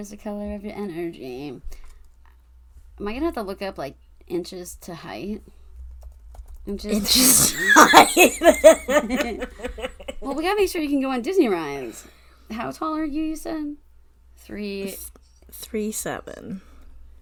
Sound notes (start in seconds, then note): 0.0 singing; 6.9 laughs